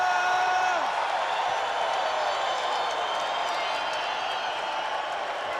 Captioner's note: spectators cheering